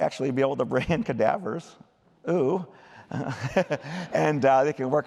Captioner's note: laughter